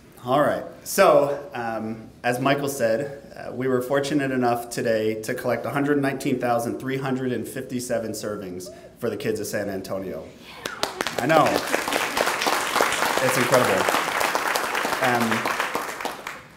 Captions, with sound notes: - All right, so, as Michael said, we were fortunate enough today to collect 119,357 servings for the kids of San Antonio, I know. (clapping) It's incredible.